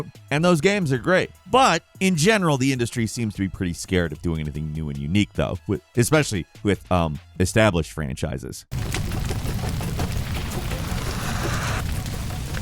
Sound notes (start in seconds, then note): 8.7 fire crackling